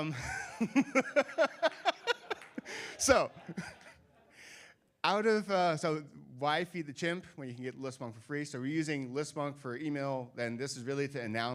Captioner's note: laughing